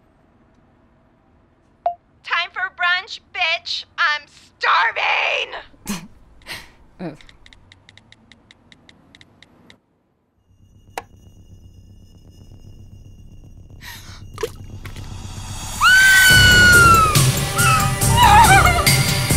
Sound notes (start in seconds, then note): 10.6 ominous music; 13.8 gasps; 15.7 screams